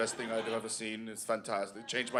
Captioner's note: German accent